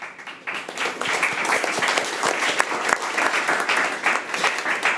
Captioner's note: audience applauding